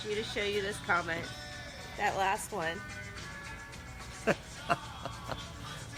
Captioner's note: laughing